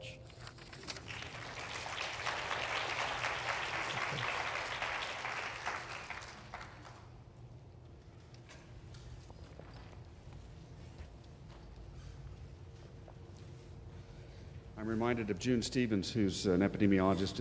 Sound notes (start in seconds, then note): 4.3 applause